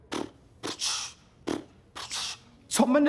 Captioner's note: beatboxing